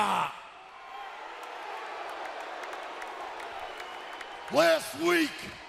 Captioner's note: crowd cheering